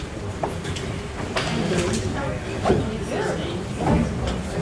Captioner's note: background conversations